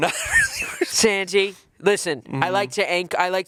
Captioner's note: chuckling